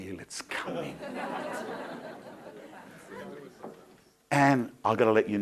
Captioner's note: crowd laughing